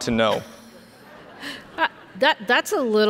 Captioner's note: audience laughs